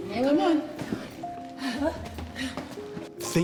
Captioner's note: groaning